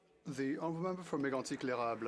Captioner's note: speaking French